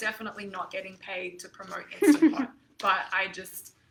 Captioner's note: chuckles